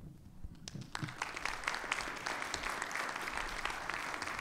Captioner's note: audience clapping